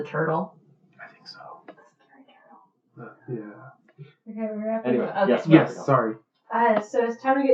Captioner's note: various whispering